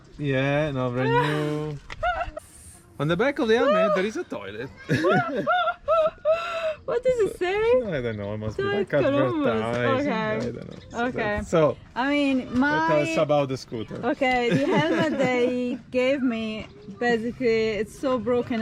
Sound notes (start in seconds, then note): 1.9 laughs; 4.8 laughs